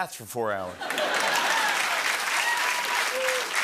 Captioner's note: laughter and applause